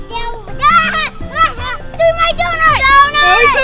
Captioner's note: laughs